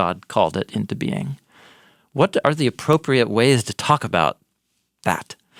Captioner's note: none